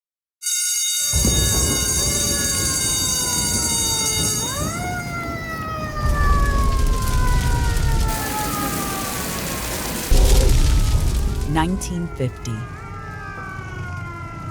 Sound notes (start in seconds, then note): 0.7 flames, fire alarms